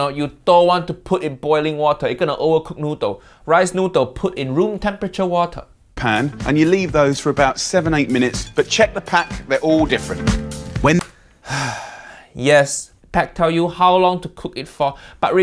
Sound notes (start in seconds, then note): 11.3 Uncle Roger sighs